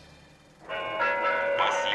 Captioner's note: sound of Kremlin chimes